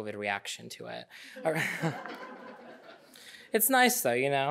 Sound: audience laughing

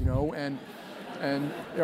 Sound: laugh

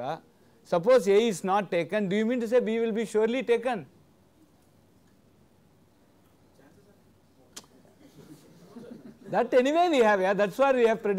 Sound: laughter

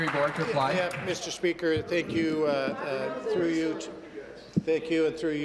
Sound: applause

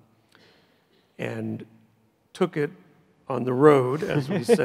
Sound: laughs

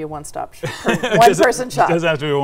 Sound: laughs

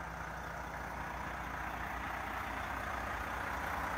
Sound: coach puttering

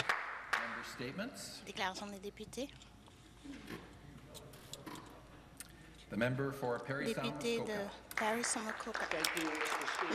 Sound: some Applause

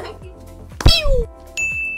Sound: laughs; wrapper squeaks; bell rings

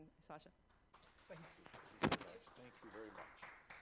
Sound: applause

